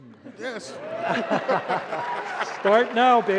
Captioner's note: cheers and laughter